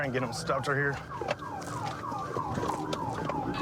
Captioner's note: sirens blaring